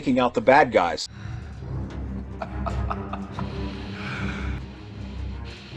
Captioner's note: laughing